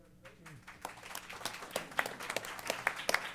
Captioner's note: applause